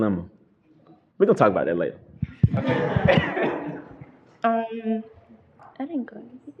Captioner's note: laughter